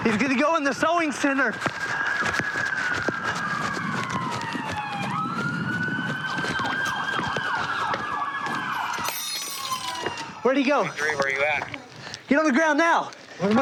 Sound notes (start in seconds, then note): 3.0 sirens